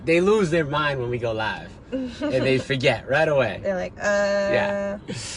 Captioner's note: laughs